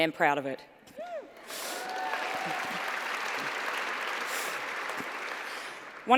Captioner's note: applause